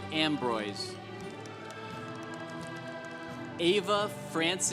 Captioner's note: congregation applauding